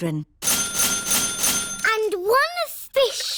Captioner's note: dinging